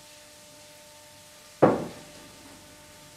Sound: thumping

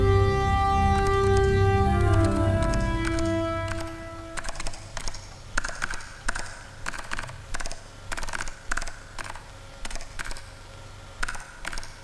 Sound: keyboard clacking

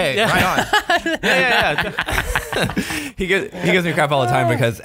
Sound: laughter

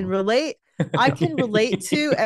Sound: laughs

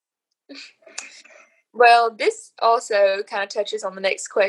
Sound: giggles

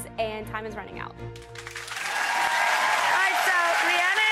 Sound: applause

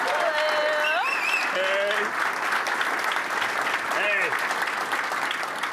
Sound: applause

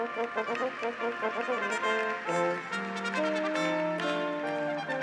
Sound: audience applauds

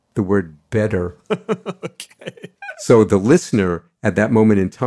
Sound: laughs

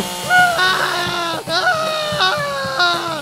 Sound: screaming

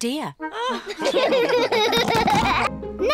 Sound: all laugh

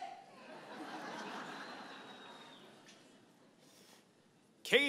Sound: audience laughing

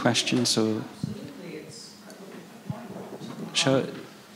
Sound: faintly speaking

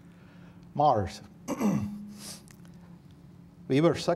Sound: clears throat

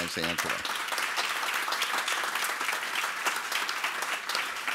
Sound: audience applauds

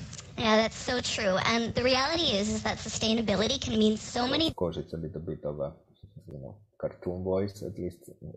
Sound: another transformed voice

